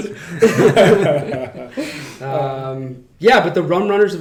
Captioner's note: laughing